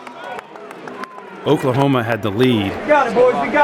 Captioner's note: cheering